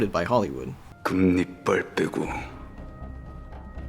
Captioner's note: Special Agent speaking Korean